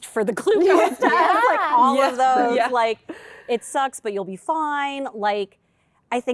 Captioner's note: laughter